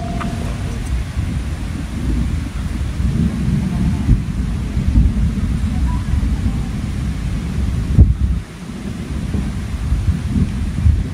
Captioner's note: sounds of thunder and clapping